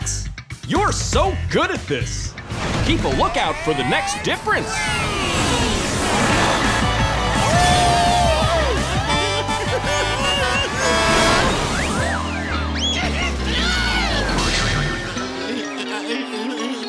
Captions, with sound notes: You're so good at this! Keep a lookout for the next difference. ...Blaze! Whoo-hoo! [honking] [screaming]